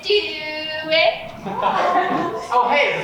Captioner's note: audience laughs